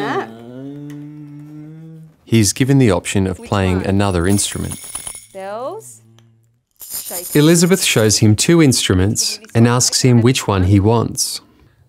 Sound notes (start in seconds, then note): 6.7 shaker shaking; 6.7 bells jingling